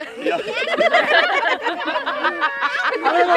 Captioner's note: laughs